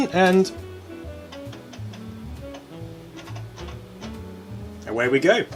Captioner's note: satisfying disk clunks